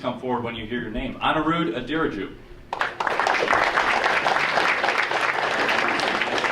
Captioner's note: audience applauding